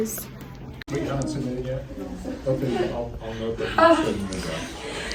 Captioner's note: classroom noises/talking